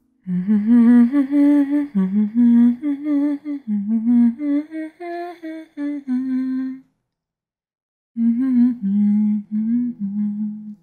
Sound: humming music

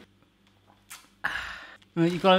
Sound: lips smacking

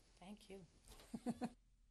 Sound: laughter

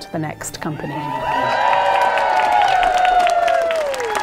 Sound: cheering

